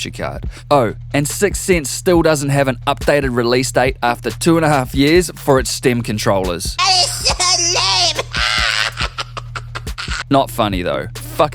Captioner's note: cartman laugh